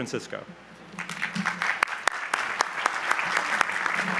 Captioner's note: applause